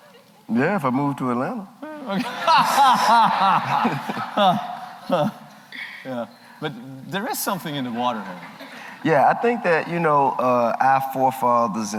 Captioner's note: laughter